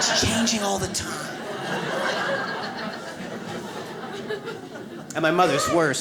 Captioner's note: audience laughs